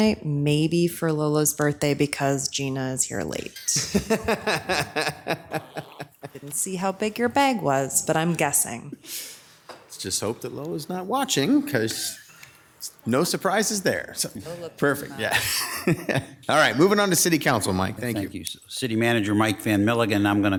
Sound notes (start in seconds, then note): 3.3 laughs; 15.2 chuckles